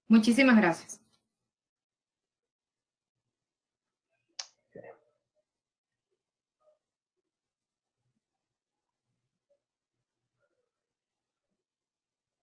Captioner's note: silence